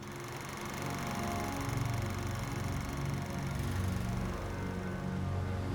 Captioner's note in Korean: 오래된 영사기 돌아가는 소리